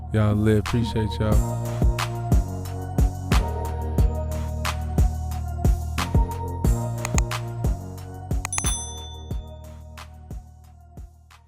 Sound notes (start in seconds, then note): 1.6 hip hop music; 7.0 click; 8.4 bell ringing